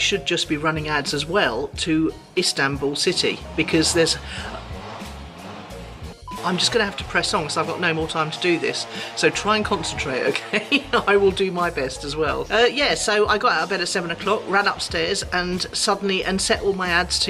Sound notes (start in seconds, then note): 4.4 beep; 4.4 chainsaws buzzing